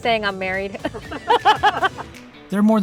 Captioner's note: both laughing